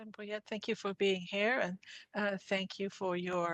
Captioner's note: speaking French